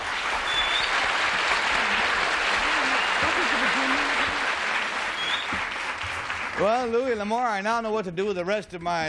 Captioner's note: applause